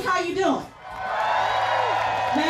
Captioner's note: cheers and applause